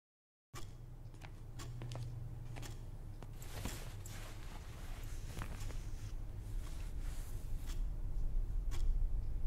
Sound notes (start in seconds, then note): 1.4 watch ticking